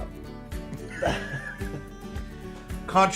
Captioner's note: laughs